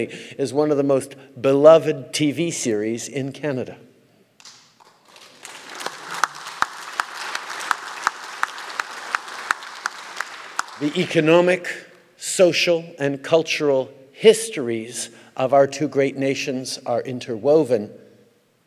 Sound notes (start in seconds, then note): 4.8 applause